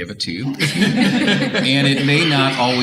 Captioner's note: audience Laughter